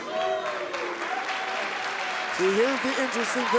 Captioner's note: crowd cheering